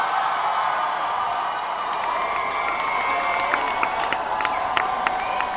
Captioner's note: applause